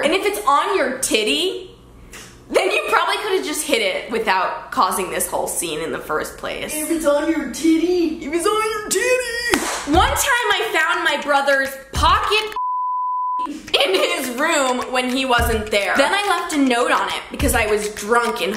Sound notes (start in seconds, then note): 9.5 claps; 12.5 beep